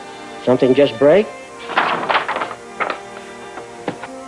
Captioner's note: paper rustling